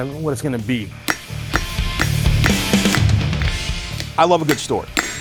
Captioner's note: loud thwacking